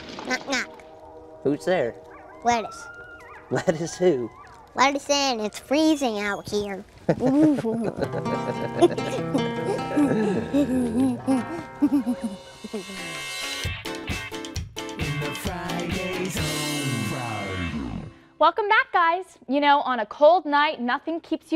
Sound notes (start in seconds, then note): 11.4 laughter